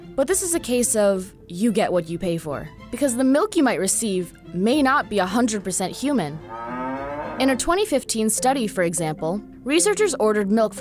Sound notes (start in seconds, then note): 5.9 cow mooing